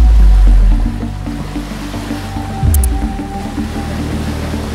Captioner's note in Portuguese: Ondas quebram; Clique de câmera